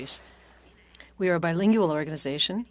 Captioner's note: speaking French